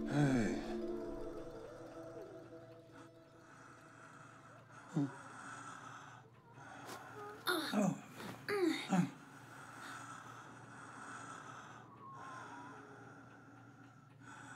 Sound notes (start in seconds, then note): 7.4 grunts; 8.3 laboured breathing